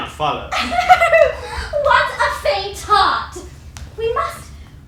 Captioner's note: laughter